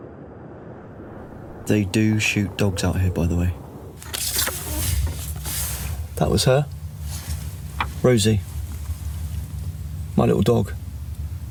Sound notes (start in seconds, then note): none